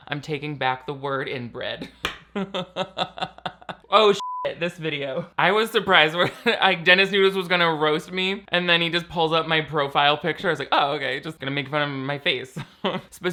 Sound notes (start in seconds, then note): 2.3 laughs; 4.1 beeps